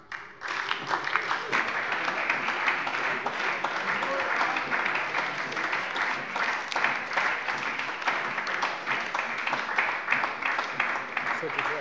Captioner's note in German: Anhaltender Beifall bei der SPD